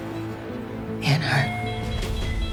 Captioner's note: voiceover